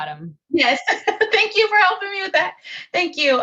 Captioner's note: laughs